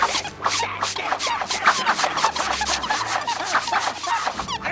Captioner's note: grunts